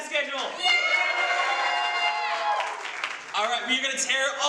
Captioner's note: applause